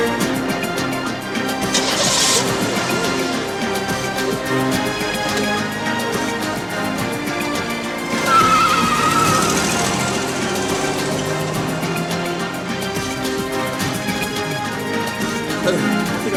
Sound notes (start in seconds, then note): 1.7 engine starts; 8.3 tires screeching